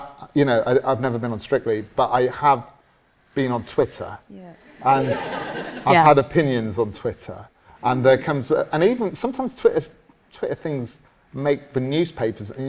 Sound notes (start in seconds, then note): 4.8 audience laughs